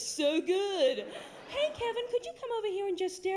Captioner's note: higher voice